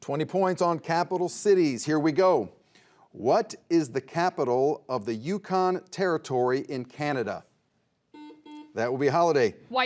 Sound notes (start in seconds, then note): 8.1 buzzer buzzes